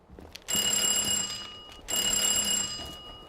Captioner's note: doorbell rings